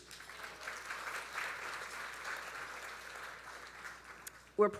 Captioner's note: audience applauding